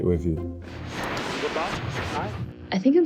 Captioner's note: radio buzzing